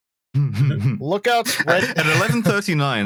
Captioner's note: chuckles